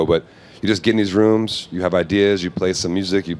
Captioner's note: none